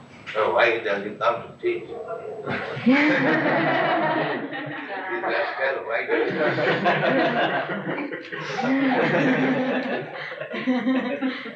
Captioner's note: laughter